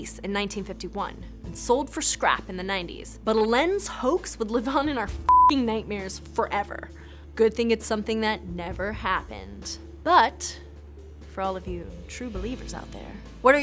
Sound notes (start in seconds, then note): 5.3 beeping